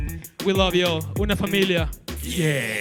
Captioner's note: speaking Spanish